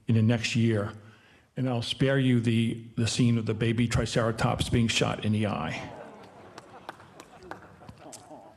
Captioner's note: audience laughing